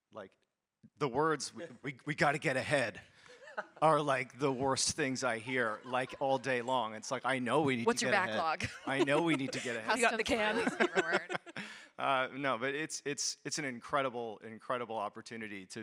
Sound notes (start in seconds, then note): 10.2 both laughs